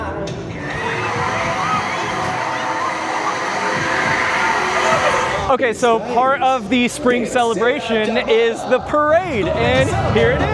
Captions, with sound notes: *Mechanical whirring* Okay, so part of the spring celebration is the parade! And here it is!